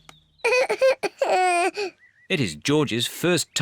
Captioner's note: cries